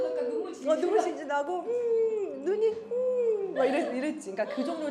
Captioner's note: sob